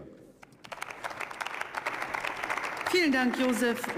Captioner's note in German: Beifall